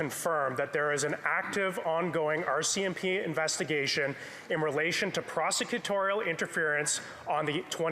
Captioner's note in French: voix de l'interprète